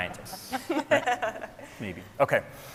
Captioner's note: scientists laughing